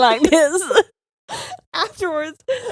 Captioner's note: both laughing